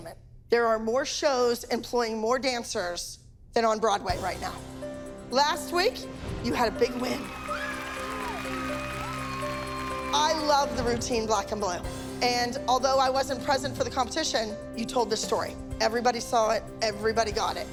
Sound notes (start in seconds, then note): 6.9 crowd cheering